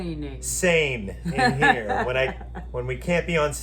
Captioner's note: laughs